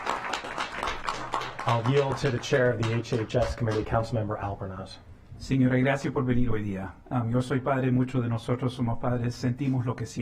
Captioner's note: applause